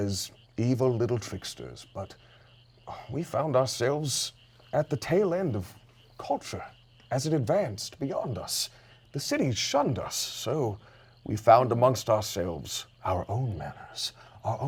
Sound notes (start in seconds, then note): 2.3 sighs